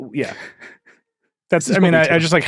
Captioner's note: laughing